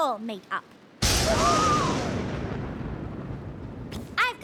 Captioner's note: thunder crashes